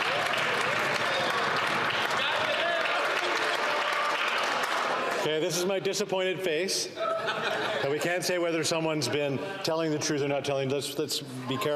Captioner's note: some Applause